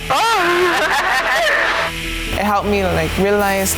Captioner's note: laughing